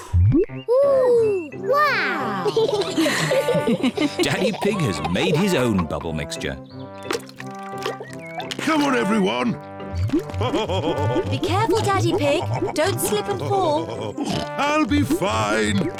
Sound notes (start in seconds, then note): 2.3 all laugh; 10.2 laughs